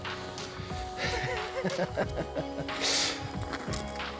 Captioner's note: laughing